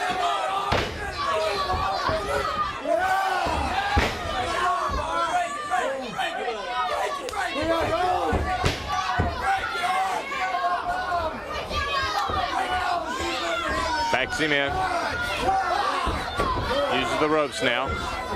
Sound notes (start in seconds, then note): 2.7 crowd cheering; 3.9 crowd chatter